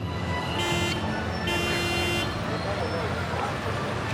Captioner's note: honking